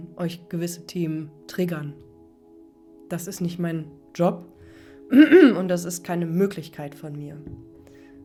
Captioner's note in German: räuspern